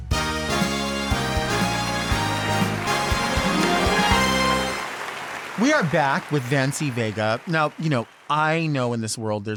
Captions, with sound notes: (upbeat music) (audience applauds) We are back with Vancie Vega. Now, you know, I know in this world